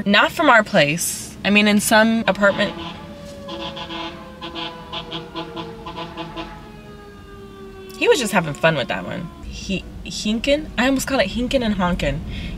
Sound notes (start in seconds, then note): 4.5 fire truck goes by honking